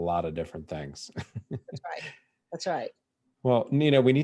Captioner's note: laughing